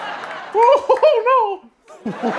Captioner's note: Mickey Mouse voice